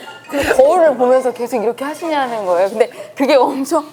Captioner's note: haha